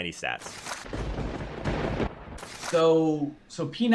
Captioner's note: lightning striking